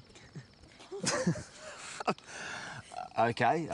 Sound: laughter

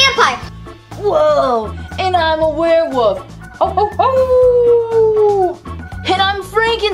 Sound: howls

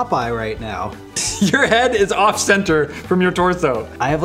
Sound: giggle

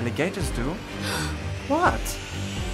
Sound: Ivy gasps

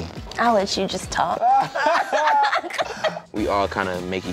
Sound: laughter

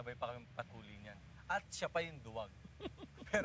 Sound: chuckles

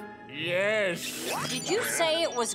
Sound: quacking

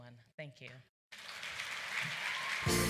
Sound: applause

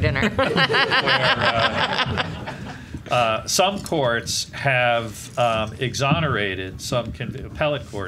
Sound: laughing

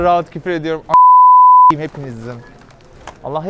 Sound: beep

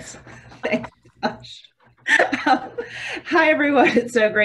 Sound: laughing

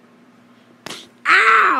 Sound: slaps of pain

